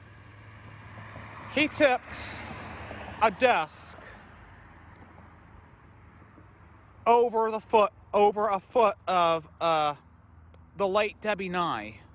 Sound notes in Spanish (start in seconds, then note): none